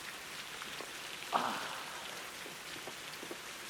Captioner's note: groaning